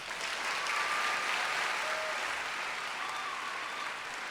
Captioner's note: applause